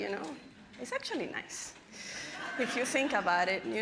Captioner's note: audience laughing